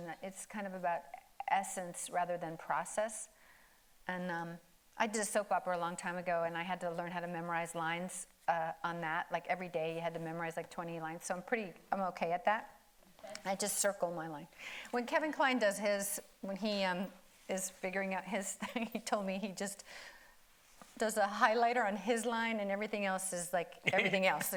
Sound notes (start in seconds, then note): 18.4 laughs; 23.8 chuckling